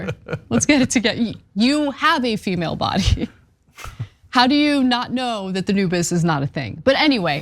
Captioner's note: laugh